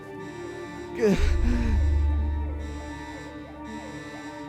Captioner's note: sobbing